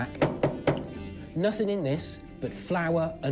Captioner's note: knocking sound